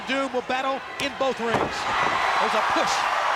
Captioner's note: body thudding